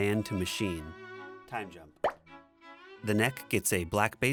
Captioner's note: pop